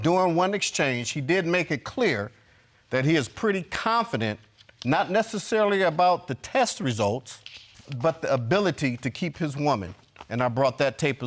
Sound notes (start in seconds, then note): none